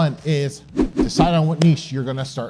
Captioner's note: text whooshing